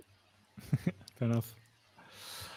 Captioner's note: chuckles